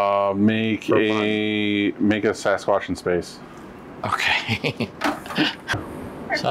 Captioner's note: giggles